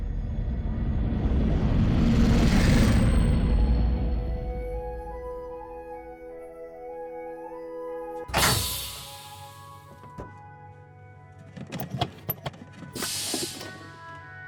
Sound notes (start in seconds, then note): 0.0 heavy spaceship passing; 8.2 heavy door opening; 8.3 pressure releasing